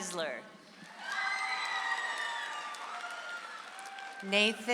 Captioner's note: audience applauds